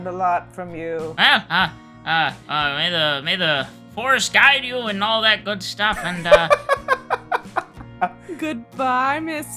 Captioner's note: laughter